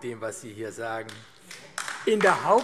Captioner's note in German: Beifall AfD